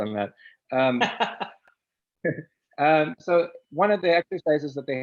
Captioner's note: chuckles; laughs; chuckles